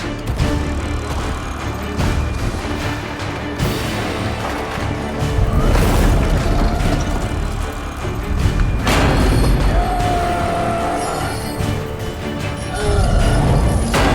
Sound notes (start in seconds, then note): 5.6 wood splintering; 8.2 loud clang; 10.1 roar; 12.6 grunt